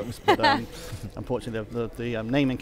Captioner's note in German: lacht